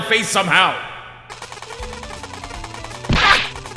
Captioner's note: “Ray gun” firing!